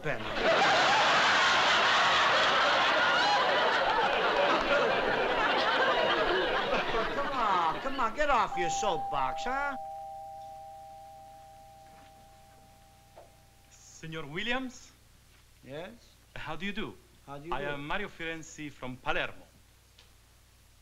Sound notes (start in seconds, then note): 0.1 laughter; 8.4 doorbell rings